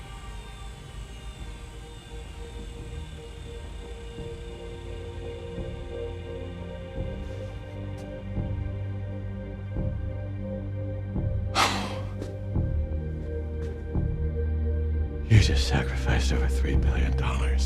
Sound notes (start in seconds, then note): 6.3 tense music continues; 11.5 Chuck sighs